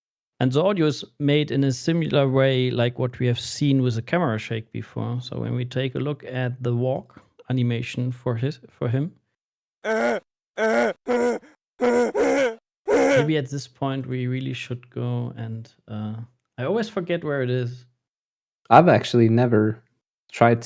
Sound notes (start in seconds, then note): 9.0 game grunting noises